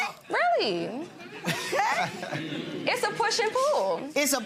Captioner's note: gallery laughs